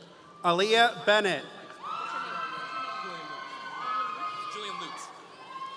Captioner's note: audience cheering